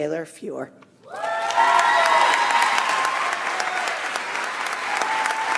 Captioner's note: audience applauds